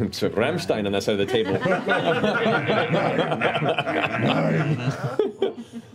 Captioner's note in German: Lachen